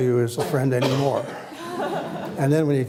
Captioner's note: laughter